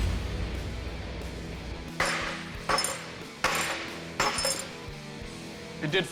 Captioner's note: banging